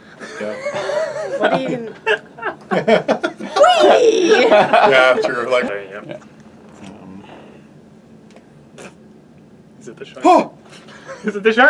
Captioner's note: shocked noise